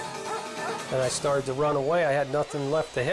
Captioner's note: dog barks